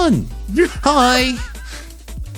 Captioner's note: laughing